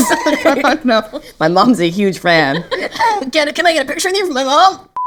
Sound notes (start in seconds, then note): 0.0 both laugh; 0.0 Nicola laughs